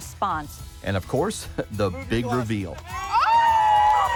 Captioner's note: cheering